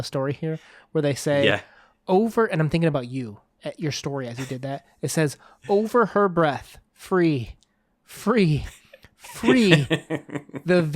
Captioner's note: laughs